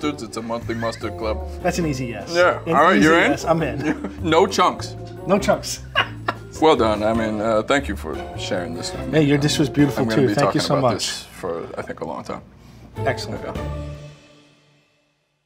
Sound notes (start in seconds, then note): 5.8 laughing